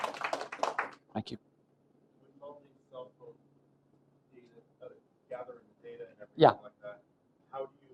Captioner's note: applause